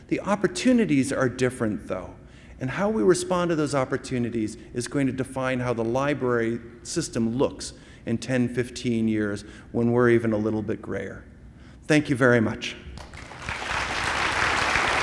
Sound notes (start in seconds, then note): 12.9 applause